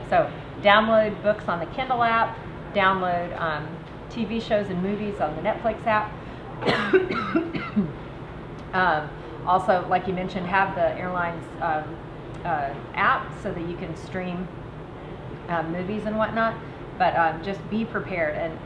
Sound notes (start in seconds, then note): 6.6 coughs